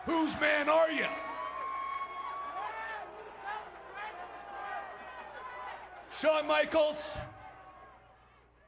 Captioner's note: applause